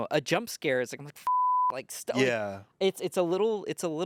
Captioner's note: beep